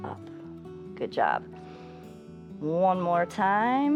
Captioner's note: inhales